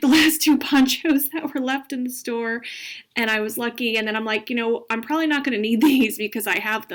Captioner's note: laughing